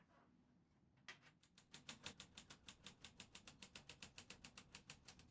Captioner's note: typewriter keys clacking